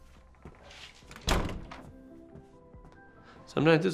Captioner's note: door thuds